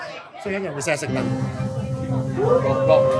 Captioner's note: person speaking in foreign language; people cheering and clapping